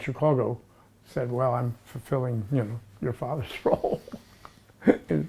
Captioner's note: chuckles